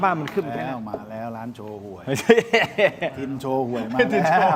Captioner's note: laughs